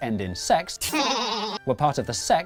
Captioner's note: high Pitched, Slightly Distorted Pervy laughter